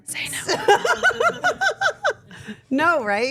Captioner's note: Steph laughing